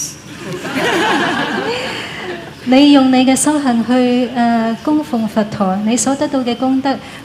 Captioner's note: laughter